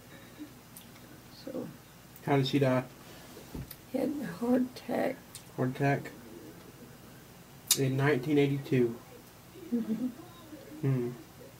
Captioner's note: mmhmm